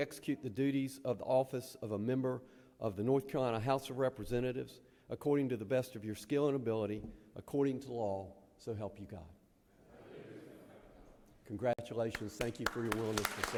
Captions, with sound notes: that you'll well and truly execute the duties of the office of a member of the North Carolina House of Representatives according to the best of your skill and ability according to the law, so help you God? [members agreeing simultaneously] Congratulations.